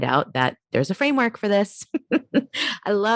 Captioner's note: giggles